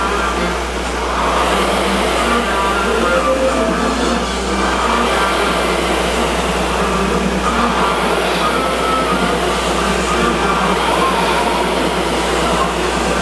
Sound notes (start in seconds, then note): 7.7 rower roars